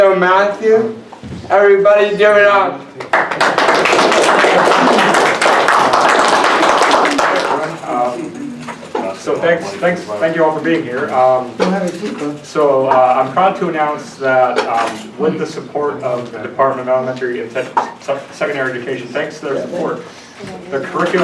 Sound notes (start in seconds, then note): 3.0 applause